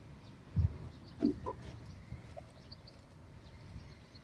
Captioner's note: birds chirping